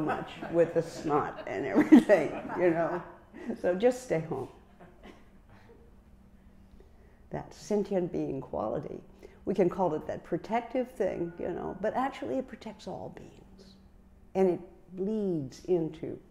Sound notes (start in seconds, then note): 3.2 laughter